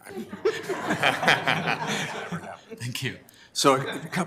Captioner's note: laugh